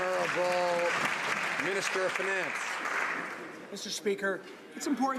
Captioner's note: some Applause